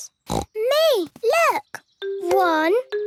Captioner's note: snorting